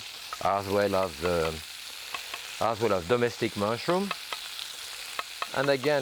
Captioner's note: knife tapping